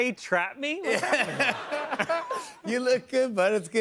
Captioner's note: laughter